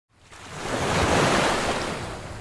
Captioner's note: sound of waves crashing